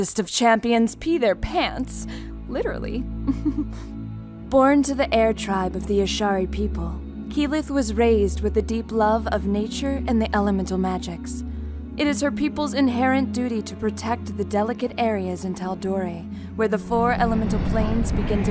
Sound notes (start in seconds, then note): 3.2 giggles